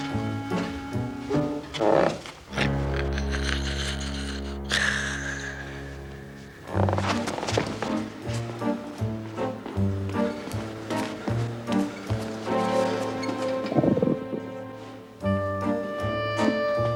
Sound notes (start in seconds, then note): 1.3 floorboard creaks; 6.4 creaking; 13.7 stomach growls